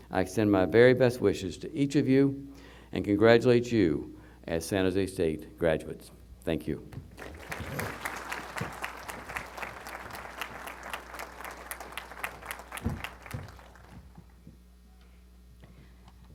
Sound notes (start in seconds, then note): 7.1 applause